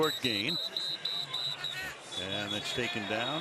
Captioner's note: whistle blows